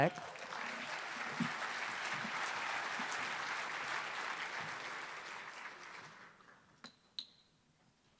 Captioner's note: applause